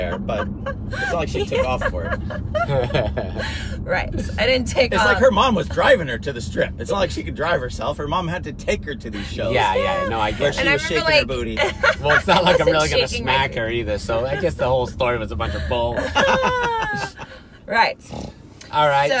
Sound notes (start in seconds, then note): 2.2 laughing; 16.0 laughing